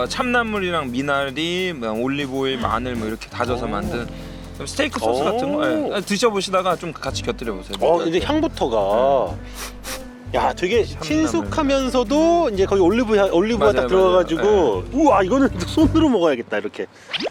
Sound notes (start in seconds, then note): 9.4 sniff